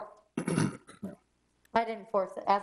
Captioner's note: clears throat